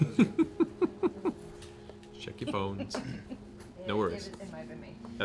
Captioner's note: laughs